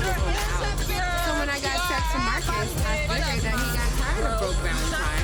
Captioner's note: overlapping chatter